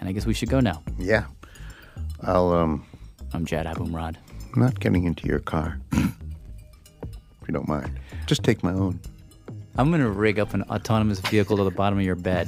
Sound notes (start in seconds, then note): 6.2 laughs